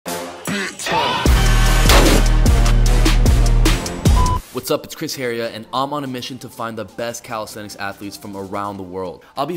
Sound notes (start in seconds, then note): 0.0 upbeat music; 4.0 audio beeps